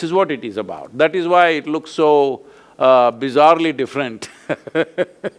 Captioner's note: laughs